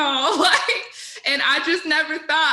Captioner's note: laughing